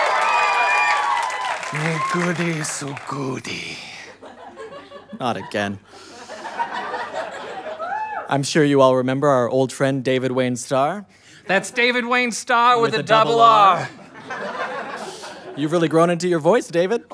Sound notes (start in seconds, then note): 0.0 cheering; 8.2 audience laughter; 15.4 audience laughter